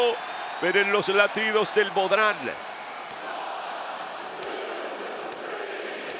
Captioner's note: applause